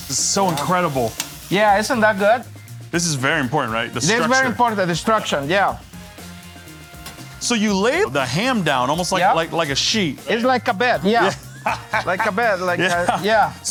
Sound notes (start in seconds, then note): 11.1 laughs